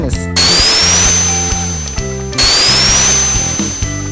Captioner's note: whirling Flying Effect